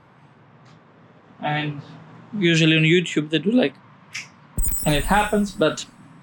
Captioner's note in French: clack